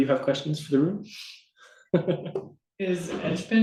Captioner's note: laughs